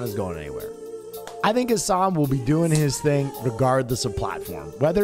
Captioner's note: failed fly slapping